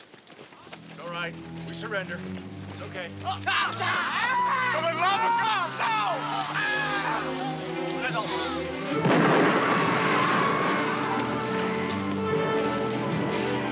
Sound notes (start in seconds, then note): 3.3 screaming; 9.0 explosion; 10.8 dramatic music